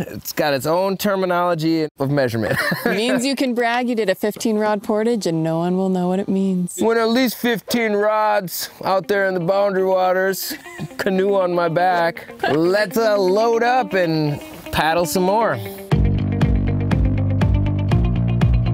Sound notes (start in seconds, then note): 2.4 laughing; 10.4 laughing; 16.0 edgy music